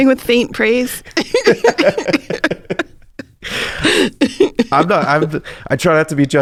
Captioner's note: laughs